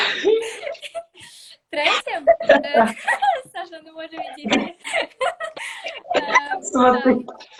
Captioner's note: can't stop laughing!